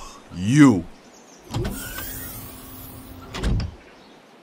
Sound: Gang of Punks' ship door closes

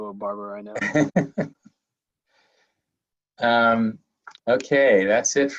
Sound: laughing

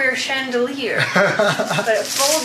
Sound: laughs

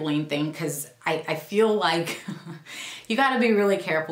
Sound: chuckles

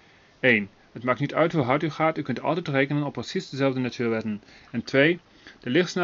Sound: slight German accent

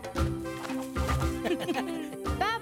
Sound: laughing

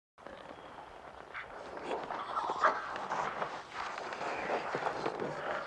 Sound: radio interference crackles

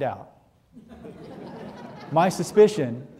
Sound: audience laughing

